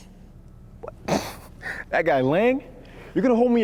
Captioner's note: scoffs